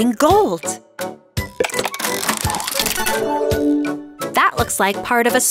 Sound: cranking

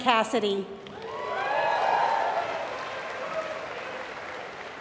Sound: applause

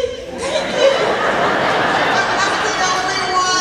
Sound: laughing

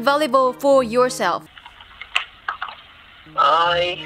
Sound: sound of typing a keyboard

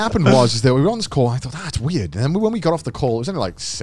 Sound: all laughing

